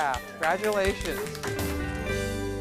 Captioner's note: applause